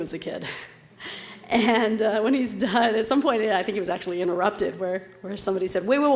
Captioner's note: laugh